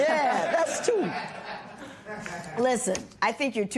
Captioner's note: laughter